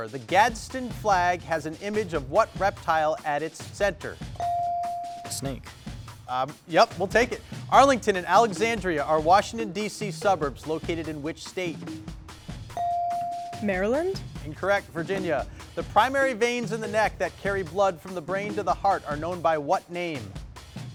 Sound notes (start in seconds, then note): 4.4 bell dings; 12.8 bell dings